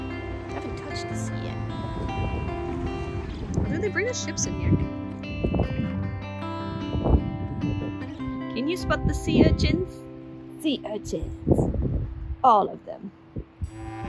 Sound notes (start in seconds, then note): none